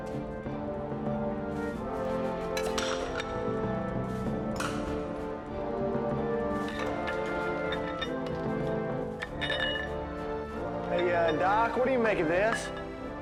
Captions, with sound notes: (suspenseful music) (lid clatters) (tube clatters) - Hey, uh, doc, what do you make of this?